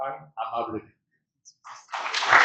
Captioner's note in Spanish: aplausos